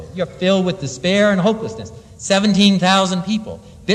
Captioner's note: none